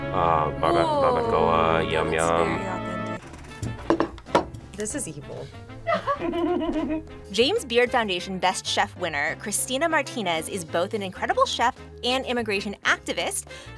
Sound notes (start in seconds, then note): 5.8 both laugh